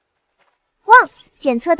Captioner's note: barking